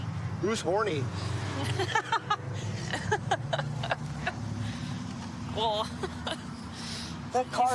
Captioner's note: laughing